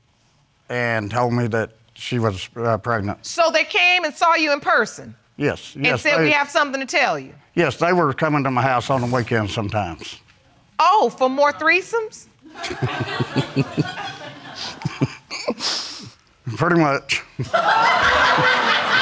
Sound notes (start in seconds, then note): 12.5 audience laughing; 12.5 chuckling; 17.4 audience laughs